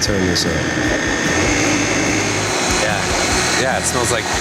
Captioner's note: blender grinding